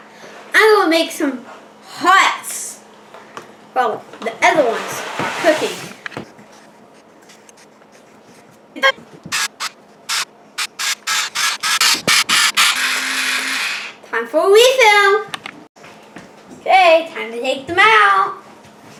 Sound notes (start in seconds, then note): 6.4 electric Spritz Noise